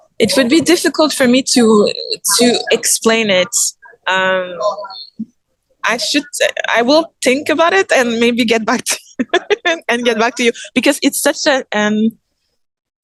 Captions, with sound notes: it would be difficult for me to explain it. I should... I will think about it and maybe get back [laughs] get back to you. Because it's such an